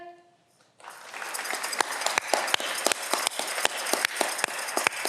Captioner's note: audience clapping